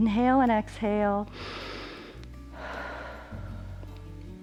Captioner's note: inhales and exhales